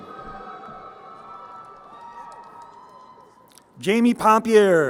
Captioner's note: crowd cheering